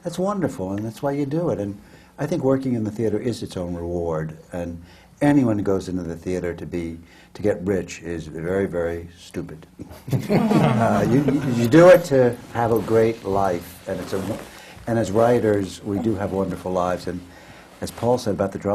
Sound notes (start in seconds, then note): 9.8 laughter